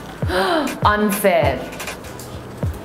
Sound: gasps

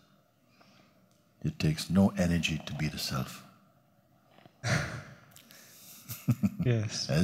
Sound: laughs

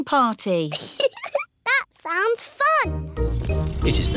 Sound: giggles

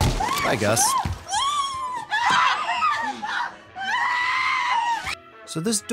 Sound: screaming

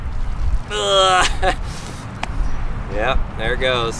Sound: grunts

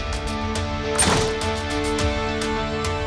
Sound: door closes

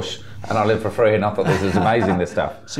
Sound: laughs

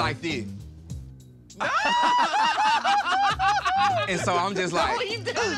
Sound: all laughing

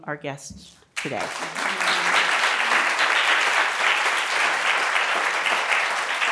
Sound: audience clapping

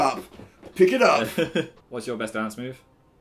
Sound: laughs

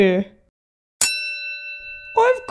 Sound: ding!

